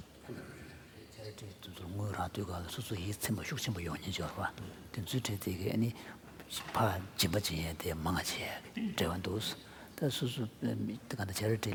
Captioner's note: foreign Language